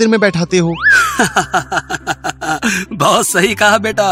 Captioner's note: Pandit ji laughing